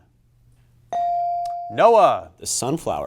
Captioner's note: buzzer chimes